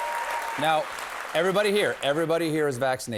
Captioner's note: cheers and applause